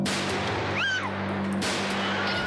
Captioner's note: gunshots; screams